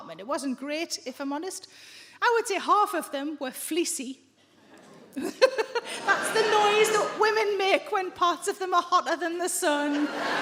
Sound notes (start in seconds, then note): 4.5 audience members groan